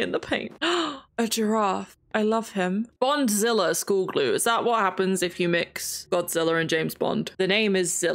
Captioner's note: gasps